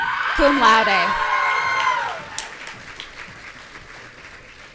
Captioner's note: audience cheering